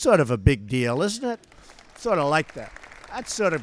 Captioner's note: applause